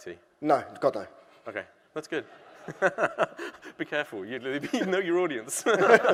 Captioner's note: laughter